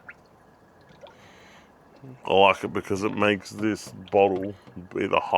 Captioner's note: water bubbling